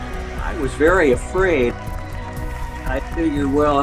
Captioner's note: audience applauding